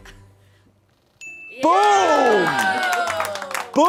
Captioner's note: bell dings